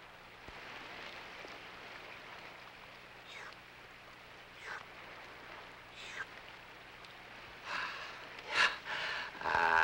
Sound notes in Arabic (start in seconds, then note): 3.2 غاري يرتشف; 8.5 غاري تنهد